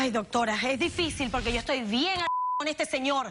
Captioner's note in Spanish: Bip